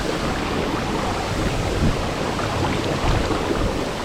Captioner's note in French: Sons de l'eau pétillante salée